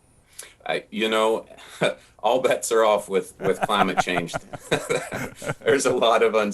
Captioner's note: both laugh